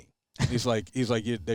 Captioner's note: chuckles